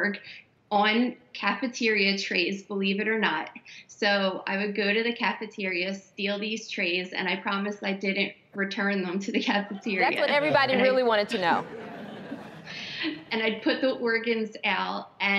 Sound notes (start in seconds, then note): 11.5 audience laughing